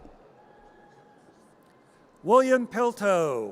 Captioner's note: audience cheers